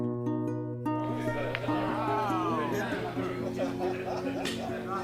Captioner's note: voices chattering